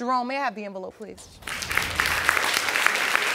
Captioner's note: audience clapping